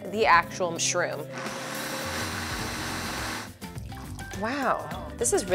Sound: blender whirring

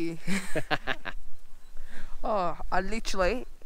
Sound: both laughing

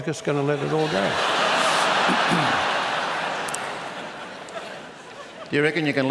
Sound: laughter

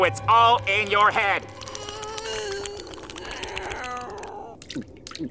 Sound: groaning

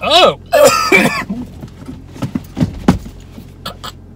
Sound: coughs

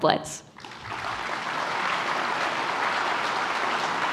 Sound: applause

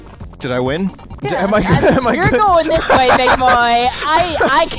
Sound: laughs

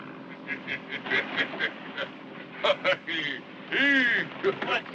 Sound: Sofotes laughing

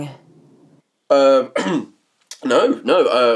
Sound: coughs

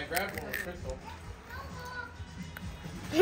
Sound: crunch

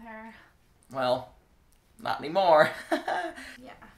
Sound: laugh

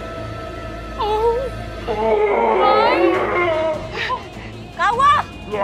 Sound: groaning

